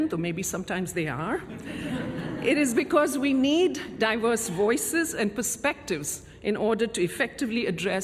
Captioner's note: laughter